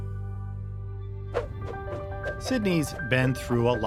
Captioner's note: cars swooshing